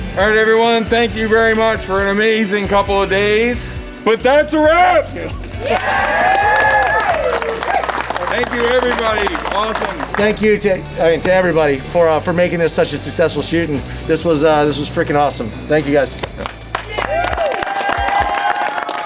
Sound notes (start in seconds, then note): 5.5 cheering; 16.6 cheering